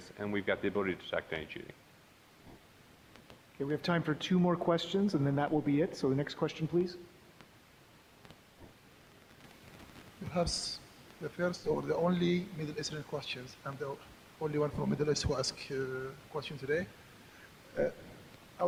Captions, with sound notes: and we've got the ability to detect any cheating. >> Okay, we have time for two more questions and then that will be it, so the next question, please. >> (with strong accent) Who has the first or the only Middle-Eastern questions-- I'm the only one from Middle East who ask here question today.